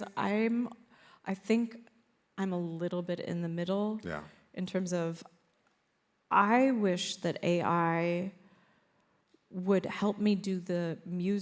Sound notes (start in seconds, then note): none